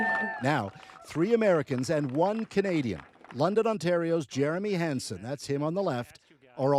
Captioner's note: applause